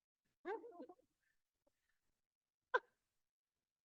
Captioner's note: crowd laughing